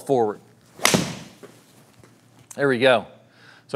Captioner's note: golf club smacking ball